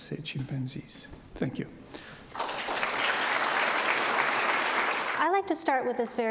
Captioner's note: audience applauds